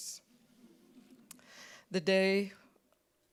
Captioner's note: audience chuckling